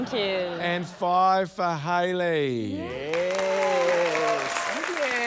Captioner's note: cheering, applause